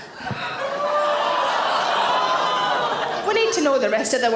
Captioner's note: audience gasp